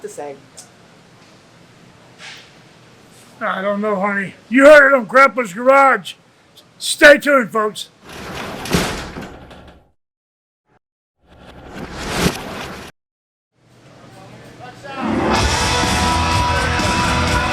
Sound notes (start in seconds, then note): 7.5 metal door slams; 15.0 rock music